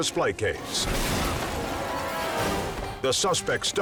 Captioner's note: objects clunks